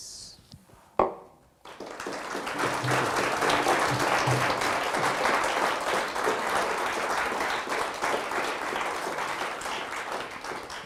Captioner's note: audience applause